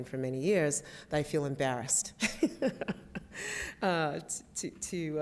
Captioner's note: laughs